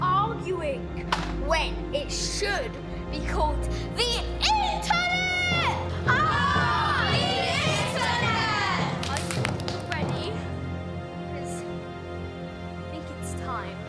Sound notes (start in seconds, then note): 8.9 claps